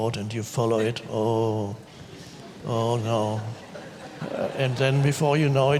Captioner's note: audience laughs